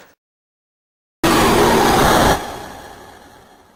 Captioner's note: ungodly screeching